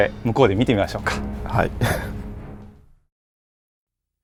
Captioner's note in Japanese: 苦笑